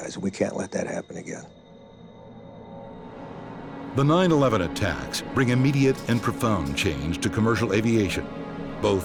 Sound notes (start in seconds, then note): 3.6 airplanes rumbling; 4.1 voiceover